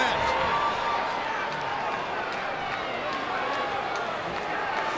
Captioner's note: crowd chattering